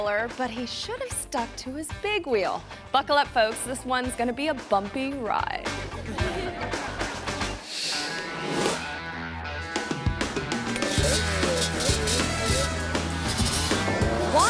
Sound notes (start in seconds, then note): 5.8 audience laughing; 8.0 upbeat music; 10.3 engine revving